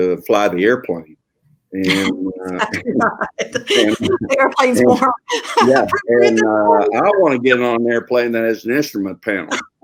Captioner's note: laughing